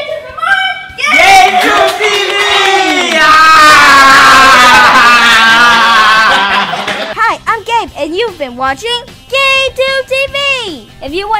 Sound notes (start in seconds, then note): 4.3 screaming and laughing